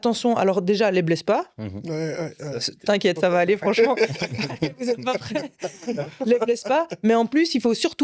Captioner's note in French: rires